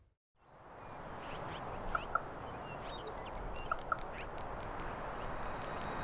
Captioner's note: distant birds chirping